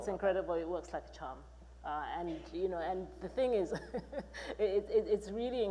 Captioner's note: chuckling